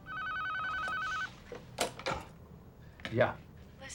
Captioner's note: phone ringing